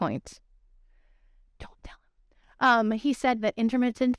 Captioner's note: whispering